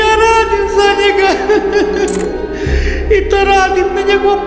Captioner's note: cries